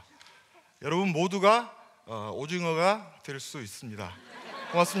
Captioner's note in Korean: 웃음